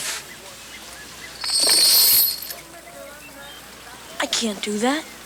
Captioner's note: chain rattles